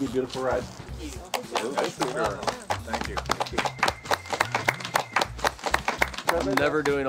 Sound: clapping

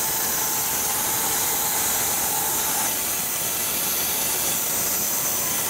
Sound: whirring continues

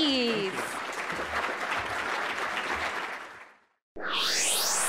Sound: audience applauds

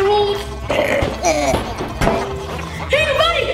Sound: germ gibbering; boinging

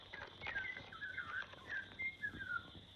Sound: birds Chirping

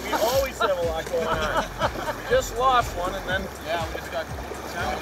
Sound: laughing

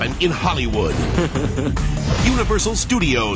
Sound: Shrek laughing

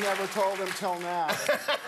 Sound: laughter; applause

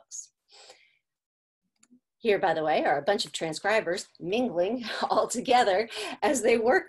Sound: laughter

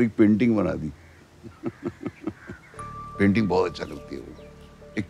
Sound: laughs

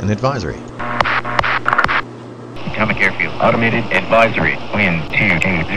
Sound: 3 radio mic clicks

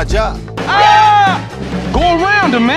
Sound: Busta yell

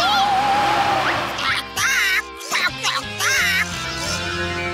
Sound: squawking

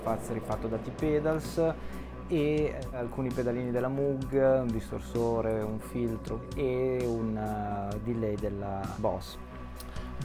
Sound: distortion and filter

